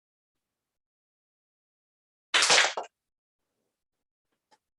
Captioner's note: clap